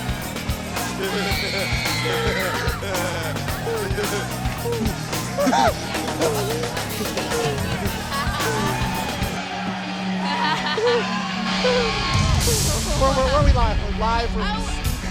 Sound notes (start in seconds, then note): 1.8 laughing